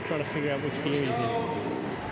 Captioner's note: cheering